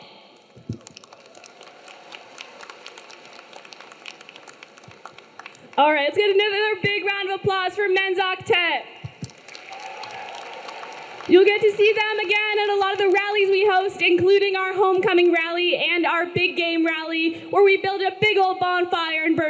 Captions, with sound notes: (audience clapping) (audience cheering) - Alright, let's get another big round of applause for Men's Octet. (audience clapping) (audience cheering) You'll get to see them again at a lot of the rallies we host, including our homecoming rally and our big game rally where we build a big old bonfire